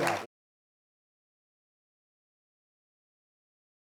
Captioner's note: audience applauds